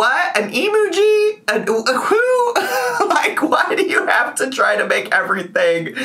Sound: laughs

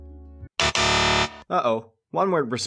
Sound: incorrect buzzer sound

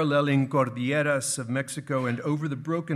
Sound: speaking in foreign language

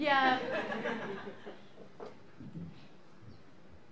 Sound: laughter

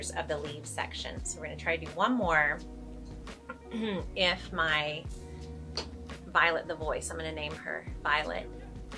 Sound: clears throat

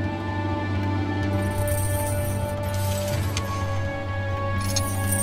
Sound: chains rattling

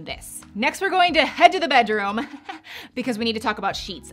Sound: giggles

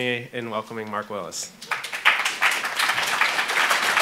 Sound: applauding

